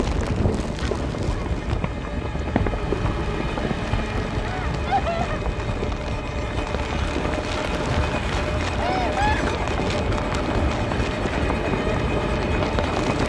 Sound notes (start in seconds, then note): 4.6 doux sanglots